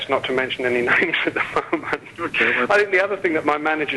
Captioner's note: laughs